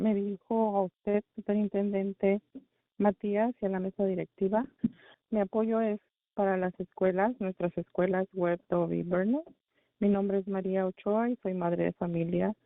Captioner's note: speaking spanish